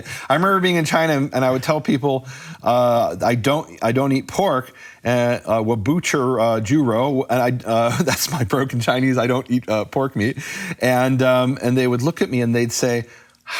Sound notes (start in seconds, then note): 4.6 speaking foreign language